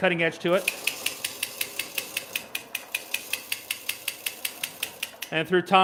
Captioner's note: lathe machine pattering